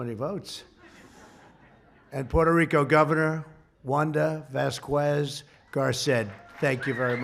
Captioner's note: laughter